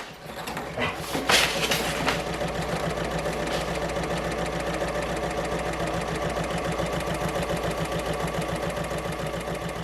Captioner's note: sewing Machine Sounds